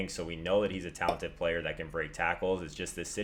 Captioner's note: pop